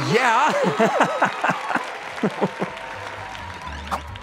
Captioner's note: cheering continues; candidates laughing